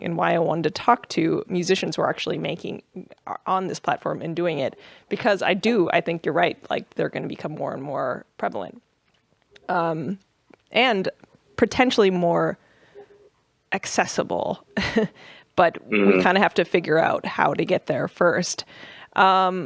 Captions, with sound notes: and why I wanted to talk to musicians who are actually making-- on this platform and doing it. Because I do, I think you're right, they're going to become more and more prevalent and potentially more accessible. [LAUGHS] Mm-hmm. But we kind of have to figure out how to get there first.